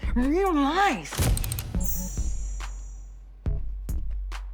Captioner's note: camera shutter clicks